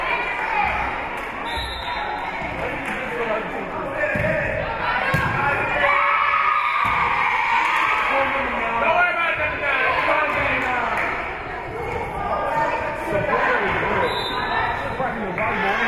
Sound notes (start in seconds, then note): 1.4 whistle being blown; 4.7 spectators shouting encouragements; 5.4 spectators cheering; 5.9 whistle being blown; 9.0 spectators shouting encouragements; 14.0 whistle being blown; 15.5 spectators shouting encouragements